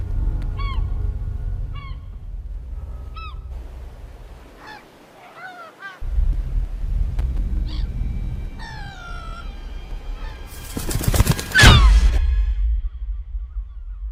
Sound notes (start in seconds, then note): 6.0 air rumbling; 10.3 wings flapping; 11.4 gulls screeching